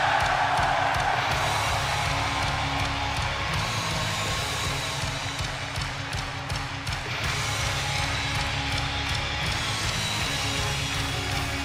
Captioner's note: crowd cheering